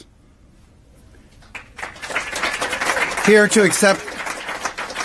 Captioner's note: applause